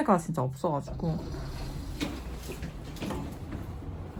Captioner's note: sound of elevator doors opening